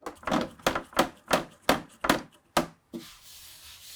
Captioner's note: clamp thudding